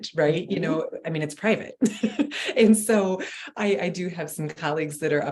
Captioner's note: giggling